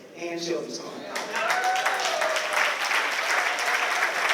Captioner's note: applause